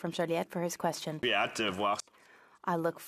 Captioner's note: speaking in French